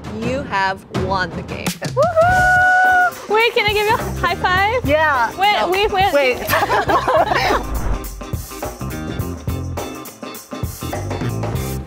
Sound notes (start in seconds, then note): 6.3 contestants laughing